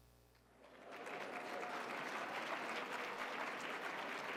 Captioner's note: audience applauds